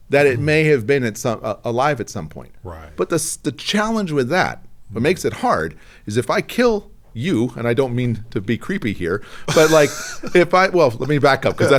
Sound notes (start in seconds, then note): 9.5 laughing